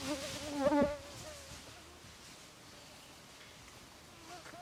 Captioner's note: bugs buzzing